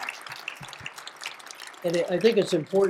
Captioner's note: applause